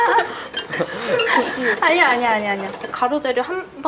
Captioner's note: the dry laughter of someone who's lost interest